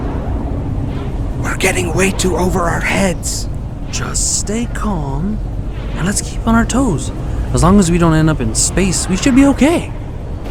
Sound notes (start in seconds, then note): 1.4 whispering